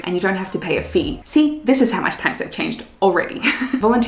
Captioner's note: laughs